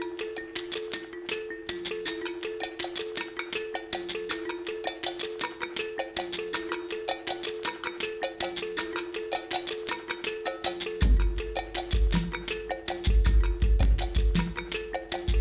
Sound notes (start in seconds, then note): 5.7 ding, ding, dong, dong of cowbell recorded and repeated on a loop